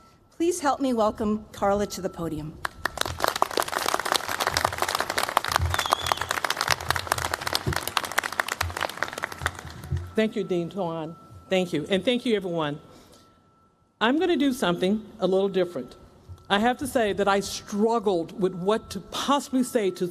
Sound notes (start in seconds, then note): 2.6 applause